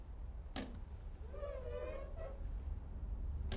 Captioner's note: squeaks